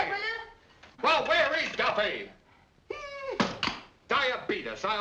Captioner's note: whines